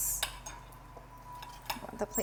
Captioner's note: plate clanking